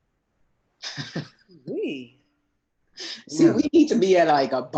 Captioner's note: laughs